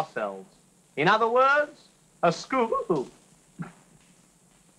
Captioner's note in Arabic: سعال